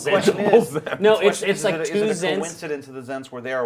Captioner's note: laughs